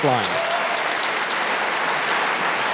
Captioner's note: audience applause